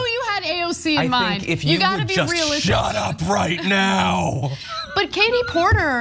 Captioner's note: laugh